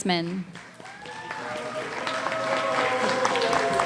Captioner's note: cheering